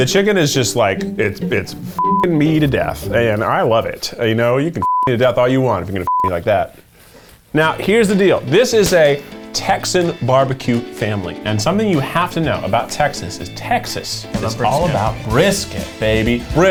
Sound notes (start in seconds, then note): 1.9 beep; 4.8 beep